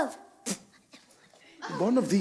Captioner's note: spits